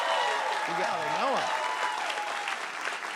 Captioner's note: cheers and applause